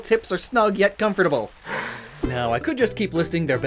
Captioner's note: Coelacanth hisses